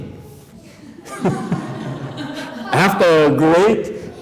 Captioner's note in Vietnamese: laughter